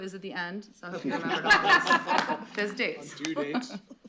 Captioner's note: laughter